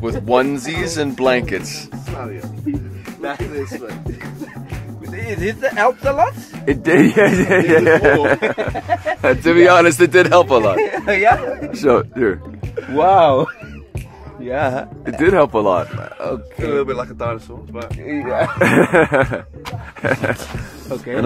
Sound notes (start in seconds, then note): 8.5 laughing; 18.1 all laughing